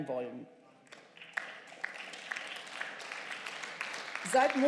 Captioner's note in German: Beifall